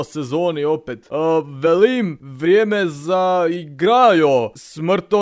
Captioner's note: tries to speak slovenian accent